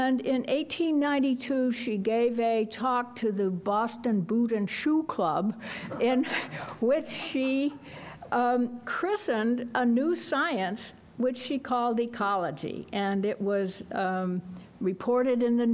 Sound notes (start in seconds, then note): 5.8 laughs